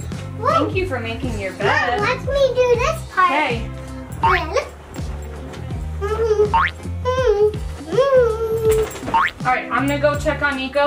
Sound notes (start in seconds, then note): 4.8 humming